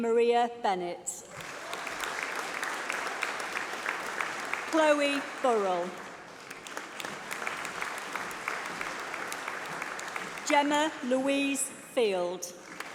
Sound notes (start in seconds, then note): 1.2 applause